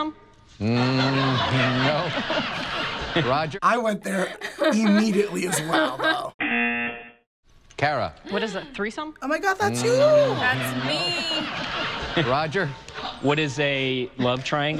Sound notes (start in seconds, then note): 6.3 buzzer